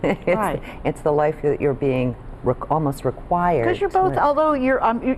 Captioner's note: laughs